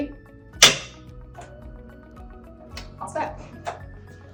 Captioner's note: light upbeat music; machine clicking; light upbeat music